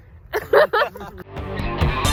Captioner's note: all laugh; upbeat electronic music